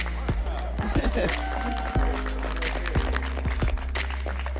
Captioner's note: applause